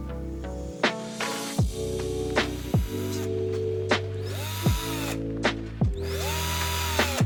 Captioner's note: drill whirring